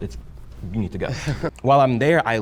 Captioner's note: laughs